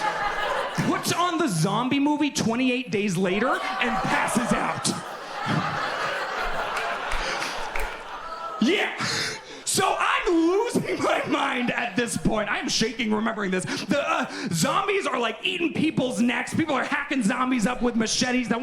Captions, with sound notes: puts on the zombie movie, "28 Days Later" and passes out. (audience laughs) Yeah. So I'm losing my mind at this point. I'm shaking remembering this. The zombies are like eating people's necks. People are hacking zombies up with machetes.